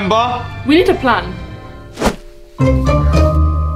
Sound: screen change whooshes; jaunty orchestral music

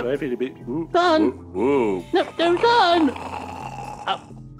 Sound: snores

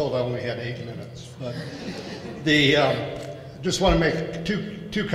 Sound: laughing

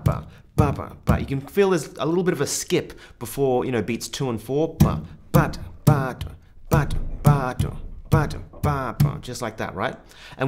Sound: taps or claps

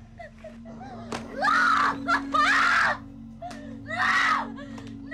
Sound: screaming

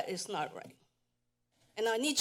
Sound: pause

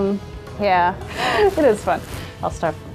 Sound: laughter

